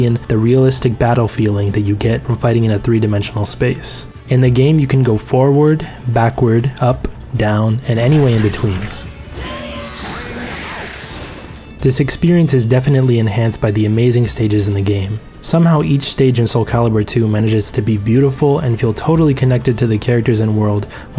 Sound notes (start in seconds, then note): 9.3 Link screaming; 9.9 water splashing